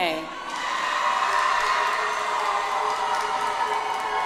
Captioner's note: audience applauds